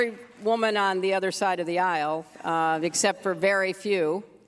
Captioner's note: applause